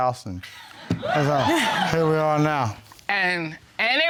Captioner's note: audience laughing